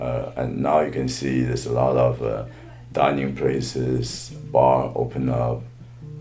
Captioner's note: phone buzzing in the background